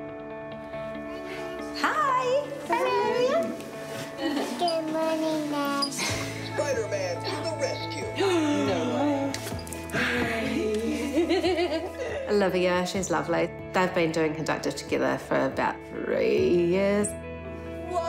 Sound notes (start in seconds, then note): 8.1 gasps; 10.2 giggles